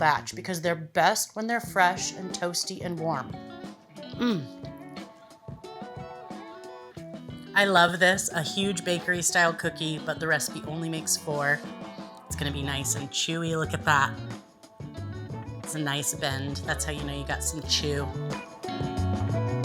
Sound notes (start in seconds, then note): 4.1 mmm!